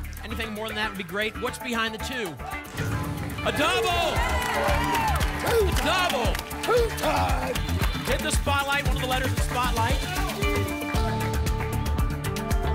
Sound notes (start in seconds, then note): 2.7 booms; 4.6 applause and cheering